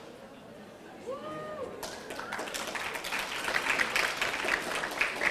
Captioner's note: audience applauding